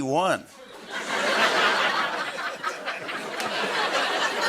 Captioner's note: laughter